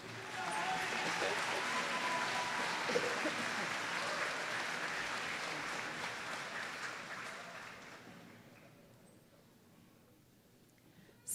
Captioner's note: applause